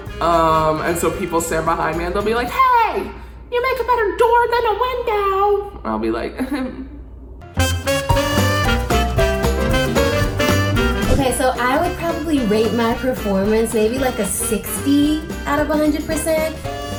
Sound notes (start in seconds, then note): 6.4 laughs; 7.7 upbeat music